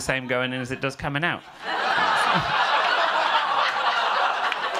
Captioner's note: audience laughing